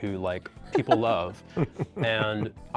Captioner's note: laugh